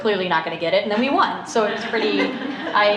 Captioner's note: laughter